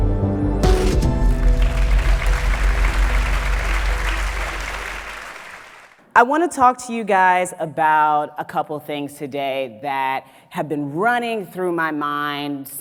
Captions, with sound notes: (applause) I wanna talk to you guys about a couple things today that have been running through my mind